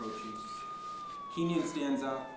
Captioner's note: siren blaring